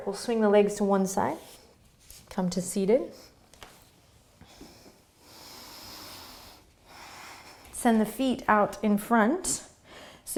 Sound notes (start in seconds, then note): 4.4 deep breathing